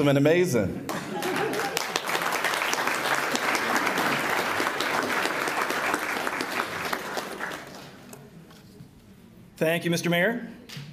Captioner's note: applause